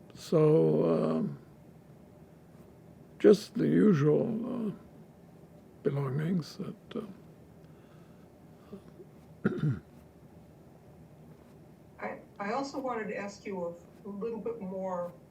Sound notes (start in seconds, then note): 9.4 clears throat